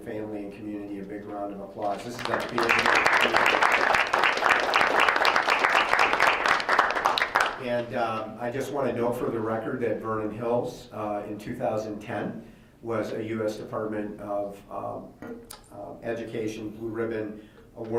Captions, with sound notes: family and community a big round of applause? This is a big deal. (members applauding) I just wanna note for the record that Vernon Hills in 2010, was a US Department of Education Blue Ribbon Award winner.